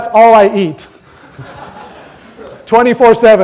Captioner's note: audience laughter